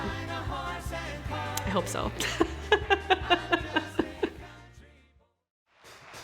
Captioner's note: laugh